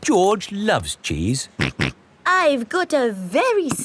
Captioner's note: snorts